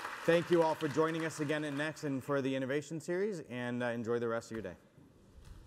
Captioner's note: applause